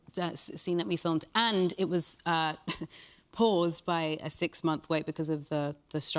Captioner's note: chuckles